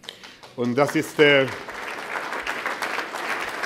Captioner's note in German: Applaus